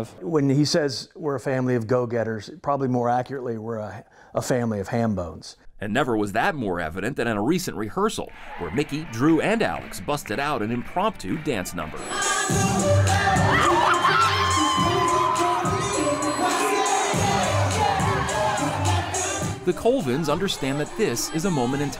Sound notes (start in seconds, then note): 12.0 students cheering; 12.1 energetic music